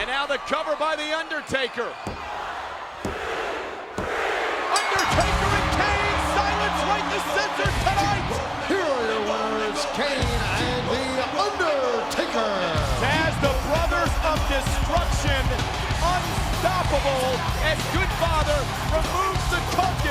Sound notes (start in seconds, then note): 4.4 crowd cheering; 4.8 bell dinging